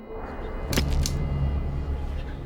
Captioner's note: shutter click